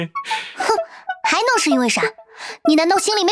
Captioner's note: sigh